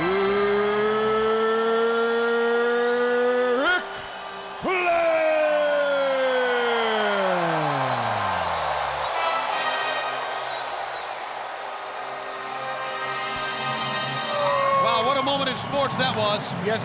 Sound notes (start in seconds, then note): 7.9 audience cheering; 7.9 dramatic music continues